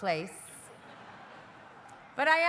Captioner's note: audience laughing